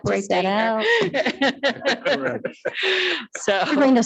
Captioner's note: board member laughing